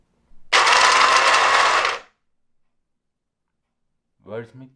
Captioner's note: blender whirring